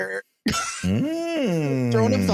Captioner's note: laughing